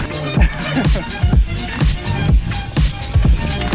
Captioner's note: laughs